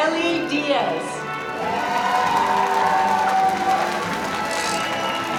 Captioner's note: crowd cheering